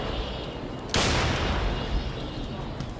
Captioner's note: cannon booms